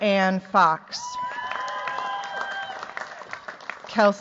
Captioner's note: cheers, applause